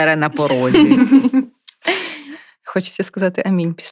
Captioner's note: laughter